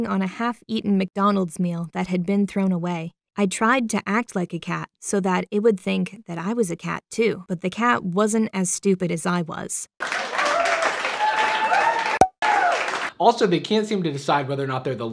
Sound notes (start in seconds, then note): 10.0 audience applauding